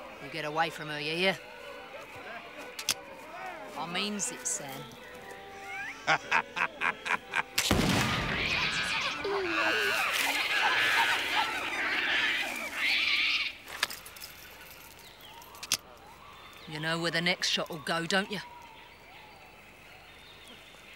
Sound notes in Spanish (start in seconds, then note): 5.6 risas; 7.6 cañonazo